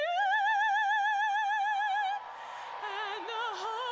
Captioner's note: applause